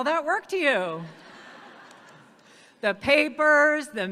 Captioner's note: audience laughs